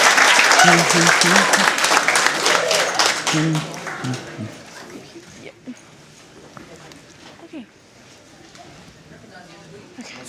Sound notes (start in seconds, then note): 3.3 cheering and Applause